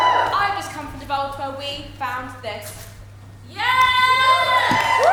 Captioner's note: audience cheer